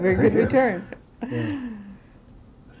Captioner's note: laughter